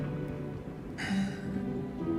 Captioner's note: sighs